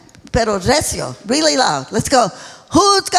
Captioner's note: speaking in foreign language